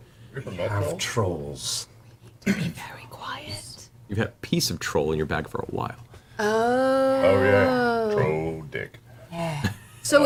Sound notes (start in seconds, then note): 2.7 whispering